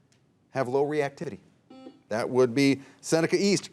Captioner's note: buzzer dings